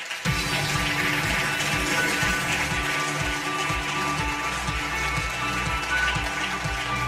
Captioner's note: audience applause; upbeat music